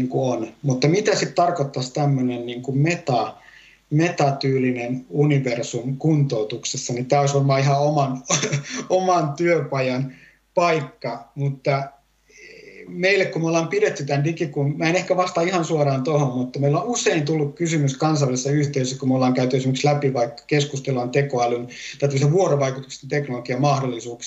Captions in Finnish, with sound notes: Mitä tarkoittaisi metatyylinen universumi kuntoutuksessa. Tämä olisi oman [naurahtaa] työpajan paikka. Olemme pitäneet digi-... En vastaa suoraan tuohon. On usein tullut kysymys kansainvälisessä yhteisössä, kun on käyty läpi. Keskustellaan vuorovaikutuksellisen teknologian mahdollisuuksista.